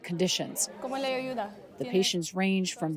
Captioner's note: doctor speaking in foreign language